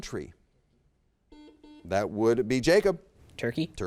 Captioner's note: buzzer beeps